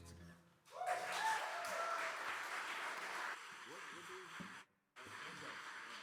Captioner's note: audience cheering and applauding